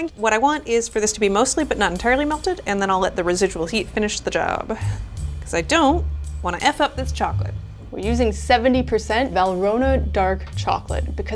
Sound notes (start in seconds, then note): none